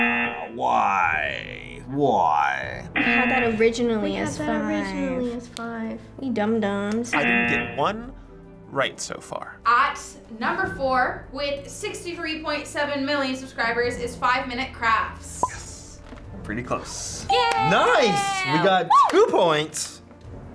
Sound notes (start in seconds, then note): 0.0 buzzer rings; 2.9 buzzer rings; 7.2 buzzer rings; 15.6 whispers